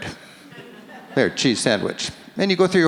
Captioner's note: audience laughs